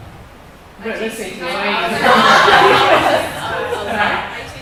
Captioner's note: talking